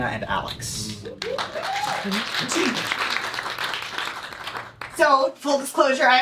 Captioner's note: applause